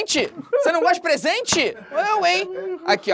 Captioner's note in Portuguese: risadas